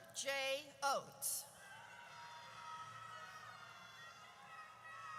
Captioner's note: audience cheers